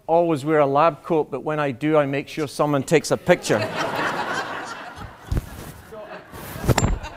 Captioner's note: laughter